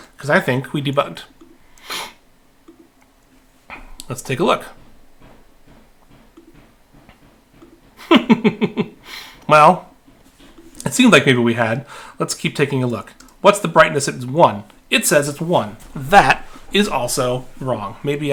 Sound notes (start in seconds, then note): 8.0 laughing